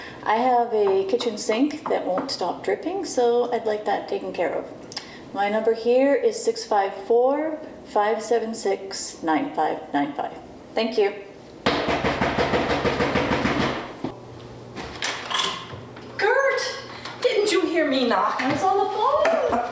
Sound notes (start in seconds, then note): 11.7 knuckles pounding